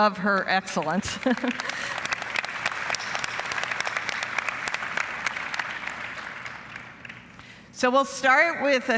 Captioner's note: applause